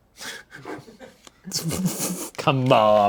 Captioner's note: everyone laughs